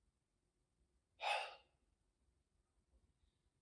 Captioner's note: Chuck sighs